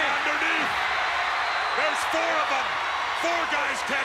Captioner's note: applause